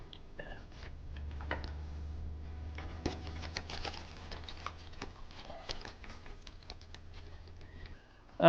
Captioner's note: card drawing